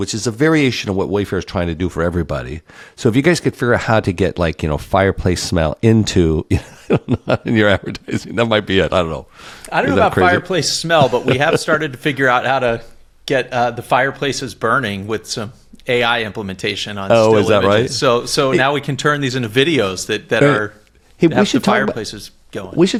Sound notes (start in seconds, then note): 6.4 laugh